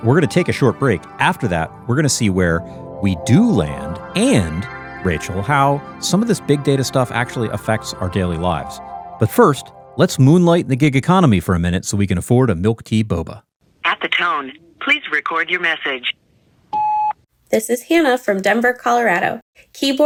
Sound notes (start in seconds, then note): 16.7 phone beeps